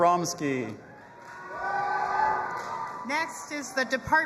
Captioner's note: audience applauding and cheering